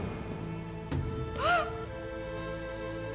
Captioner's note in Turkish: Ağlama sesi